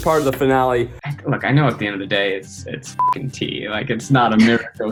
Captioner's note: beep